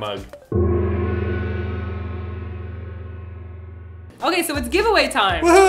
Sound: gong!

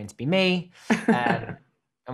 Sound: laughs

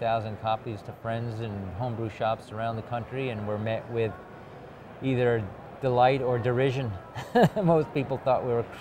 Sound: laughing

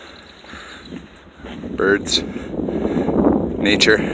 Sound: birds

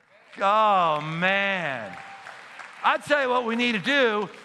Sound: applause

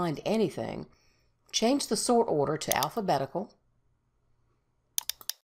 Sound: mouse clicks

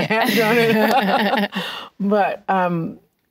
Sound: laughing

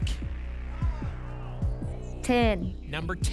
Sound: audience shouting numbers

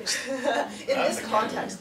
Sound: laughing

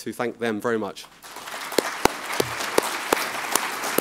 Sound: applause

